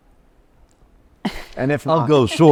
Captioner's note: laughs